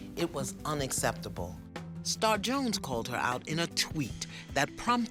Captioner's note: none